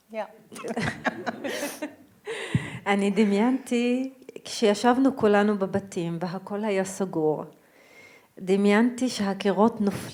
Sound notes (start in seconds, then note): 0.6 laughs; 2.8 speaking in foreign language